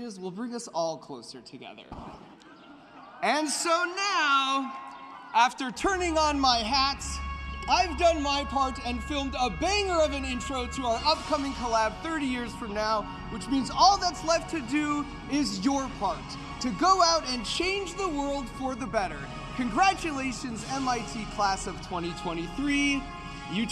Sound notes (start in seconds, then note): 1.8 laughter; 2.8 cheering